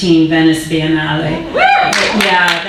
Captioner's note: audience cheering; audience applauding